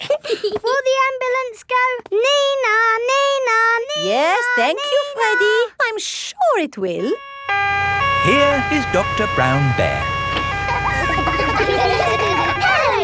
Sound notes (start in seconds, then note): 0.0 both giggling; 7.0 siren wailing; 11.1 kids laughing